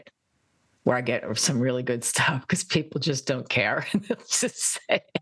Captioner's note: laugh